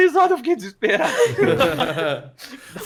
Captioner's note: laughing